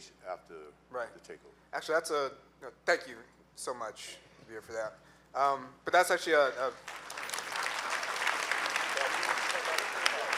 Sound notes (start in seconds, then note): 6.7 clapping